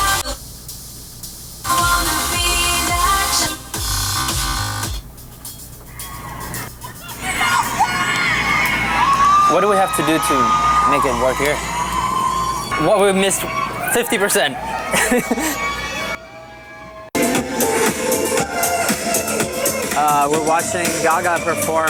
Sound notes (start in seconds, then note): 7.1 fans cheering, screaming; 16.1 laughs